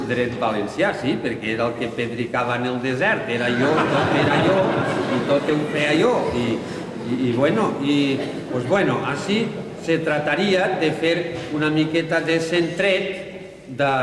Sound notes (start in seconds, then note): 3.4 laughter